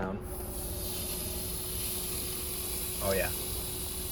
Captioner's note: hissing